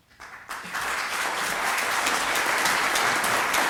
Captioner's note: applause